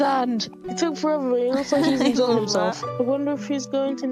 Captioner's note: laughs